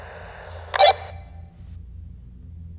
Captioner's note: walkie-talkie blips